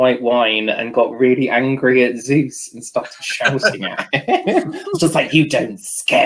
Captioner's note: laughter